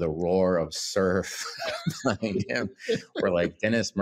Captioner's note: both laughing